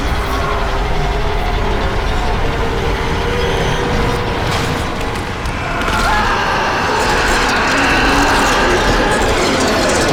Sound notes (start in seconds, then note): 0.1 frightening music; 5.6 Josh screaming